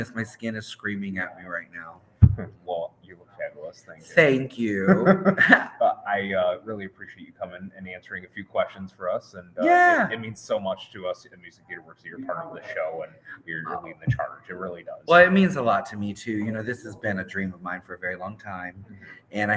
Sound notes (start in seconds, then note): 3.4 speaks faintly